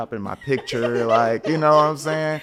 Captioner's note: podcasters laughing